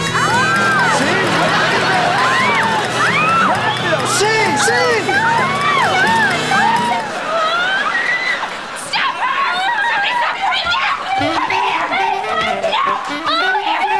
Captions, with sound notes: Si! Si! Rapido! Rapido! [screaming] Si! Si! [screaming] [screaming] Get her! [screaming] Come here! [screaming]